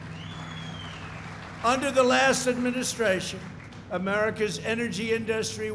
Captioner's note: applause